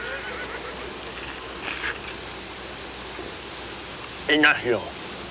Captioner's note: Bruto slurps